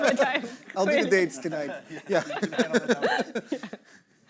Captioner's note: laughing